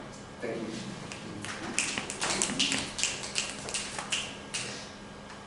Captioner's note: applause